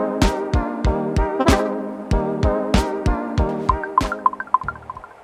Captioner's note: menu sound effects